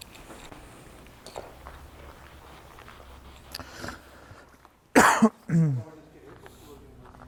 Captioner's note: silence in the background